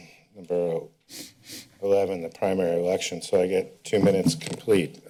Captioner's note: sniffs